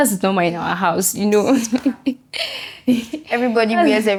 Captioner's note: laughs